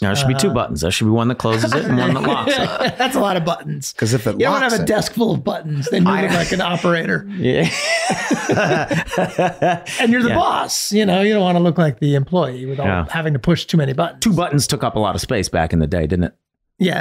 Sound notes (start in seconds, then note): 1.6 laughing; 7.5 everyone laughing